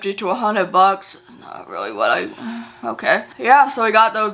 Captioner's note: sighs